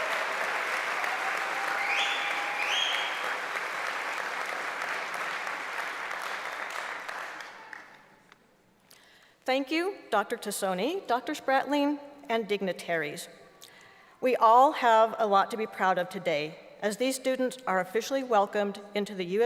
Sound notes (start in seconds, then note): 0.0 applause; 3.2 cheering